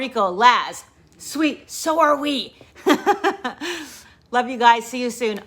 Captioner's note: chuckles